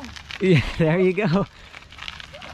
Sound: laughs

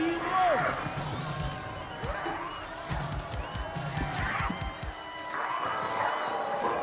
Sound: crowd cheering, Sheila growling

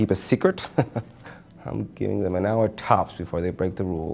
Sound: laughs

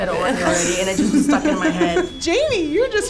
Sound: laughing

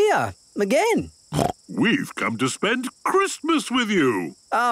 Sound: snorting

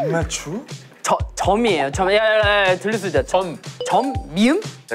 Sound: whispering

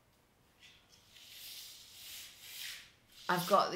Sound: brushing sound

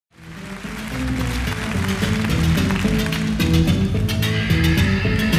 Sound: audience applauding; funky dance music

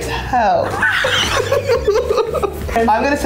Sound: laughing

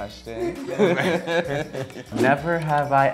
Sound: laughs

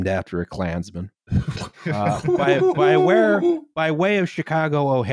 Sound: laughter

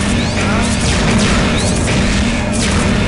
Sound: gunfire

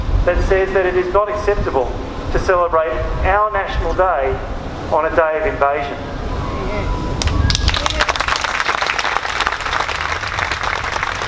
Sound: clapping

